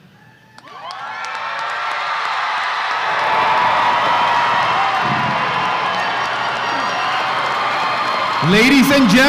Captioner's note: loud applause and cheers